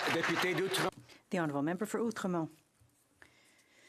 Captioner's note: some Applause